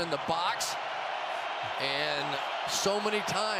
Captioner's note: cheering